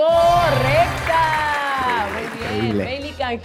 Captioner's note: applause